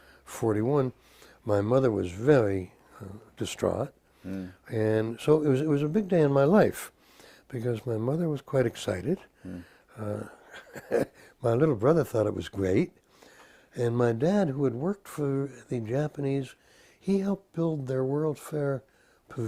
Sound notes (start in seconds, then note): 10.1 laugh